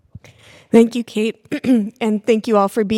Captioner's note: clears throat